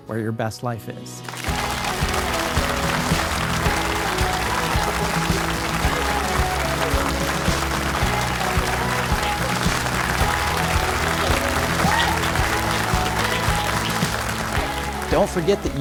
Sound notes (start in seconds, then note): 2.6 audience applauding; 2.6 upbeat music